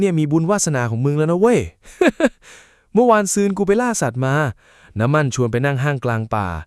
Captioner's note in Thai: เสียงหัวเราะ